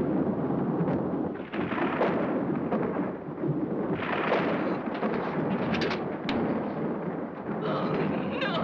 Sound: thunder rolls

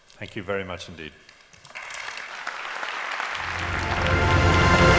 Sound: applause

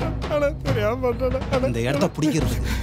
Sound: sobs

